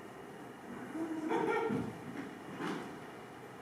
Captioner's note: Hatter giggles gleefully